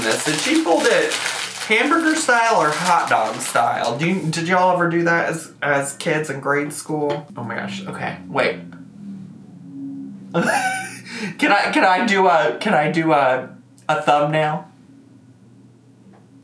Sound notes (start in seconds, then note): 10.3 laughs; 14.9 laughs